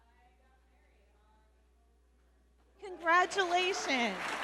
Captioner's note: audience member shouting